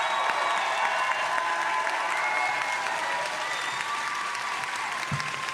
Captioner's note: audience applauding and cheering